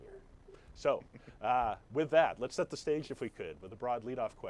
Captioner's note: Jonah laughs